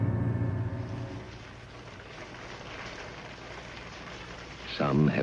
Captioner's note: water splashing softly